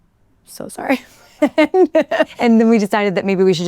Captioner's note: laughs